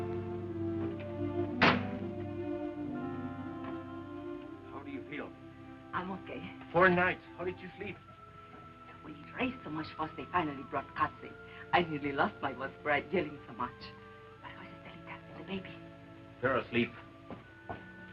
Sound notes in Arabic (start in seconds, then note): 1.5 صوت طرق الباب